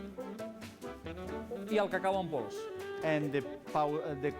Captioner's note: non-english speech